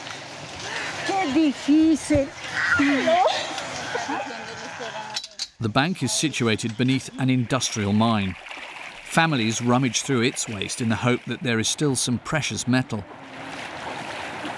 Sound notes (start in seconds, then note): 1.6 speaking in foreign language